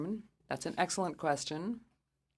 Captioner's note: speaking French